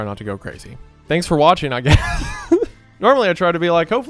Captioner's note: laughs